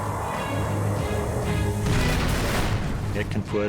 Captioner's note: blast sound